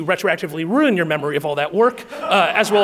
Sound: audience laughing

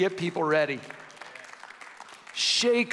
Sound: audience clapping

